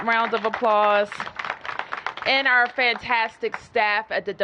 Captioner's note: applause